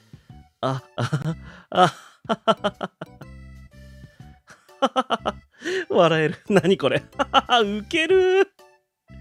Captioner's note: laughs